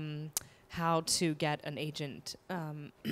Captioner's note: clears throat